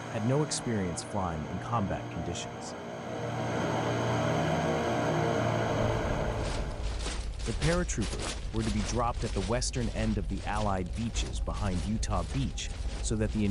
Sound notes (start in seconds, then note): 3.5 engines humming; 6.2 soldiers marching